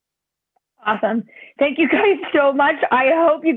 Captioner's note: laughter